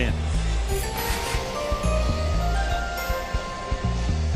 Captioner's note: chimes ringing